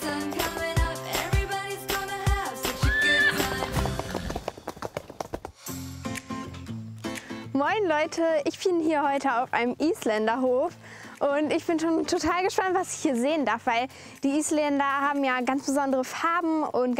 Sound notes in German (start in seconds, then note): 2.7 Wiehern, Hufgetrappel; 6.0 Lebendige Musik